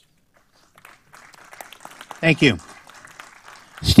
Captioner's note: applause